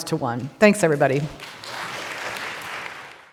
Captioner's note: audience applauding